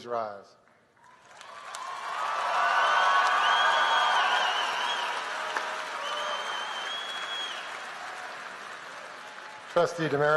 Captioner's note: applause